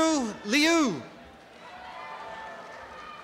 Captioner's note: applause and cheering